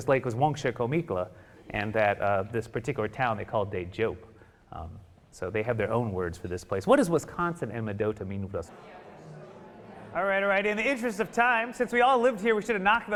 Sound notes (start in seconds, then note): 8.6 audience chattering